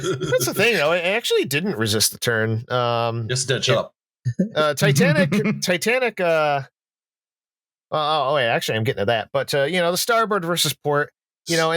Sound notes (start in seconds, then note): 0.0 laughter; 4.7 chuckles